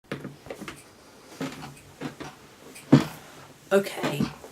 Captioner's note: chair rattling